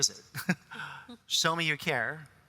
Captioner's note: chuckles